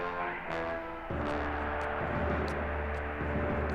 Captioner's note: cheering